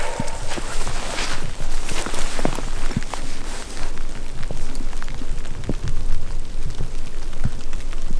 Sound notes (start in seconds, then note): 2.0 downpour pattering